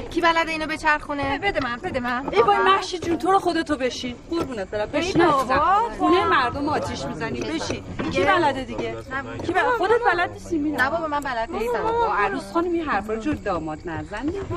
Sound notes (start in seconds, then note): none